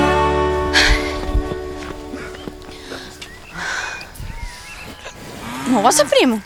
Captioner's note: panting